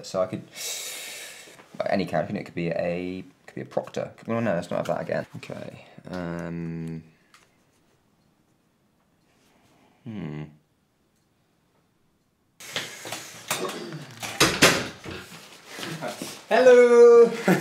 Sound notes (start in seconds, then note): 0.5 inhales; 10.0 thoughtful humming; 13.5 door closing; 17.2 laughs